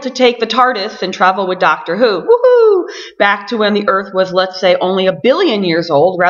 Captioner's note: whohoo